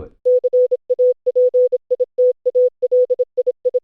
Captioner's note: beeping